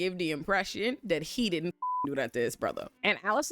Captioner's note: beep